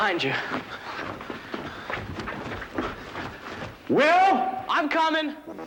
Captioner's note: footsteps clomping